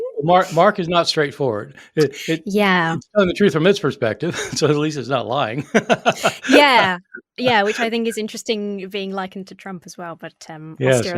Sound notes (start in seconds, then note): 4.0 laughing